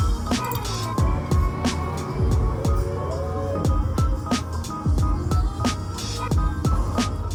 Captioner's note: laughs